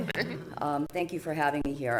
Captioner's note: chuckling